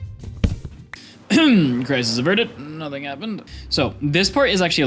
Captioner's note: ahem